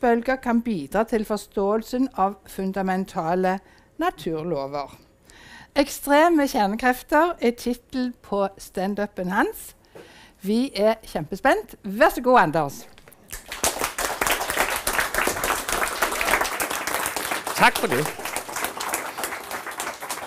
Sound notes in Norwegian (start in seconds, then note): 13.2 Applaus